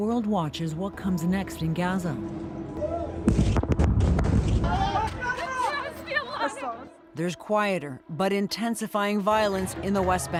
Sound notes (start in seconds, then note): 3.3 explosion rumbling; 5.2 shouting in other language